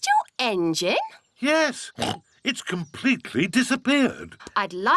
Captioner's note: oinks